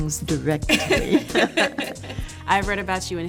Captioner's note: laughter